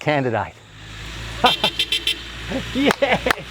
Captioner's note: tooting